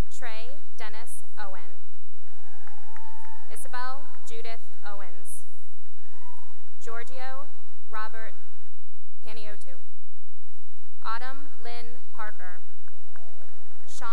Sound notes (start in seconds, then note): 2.1 cheering and applause; 4.9 cheering and applause; 9.8 applause; 12.9 cheering and applause